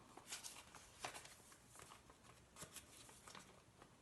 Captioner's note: envelope rustling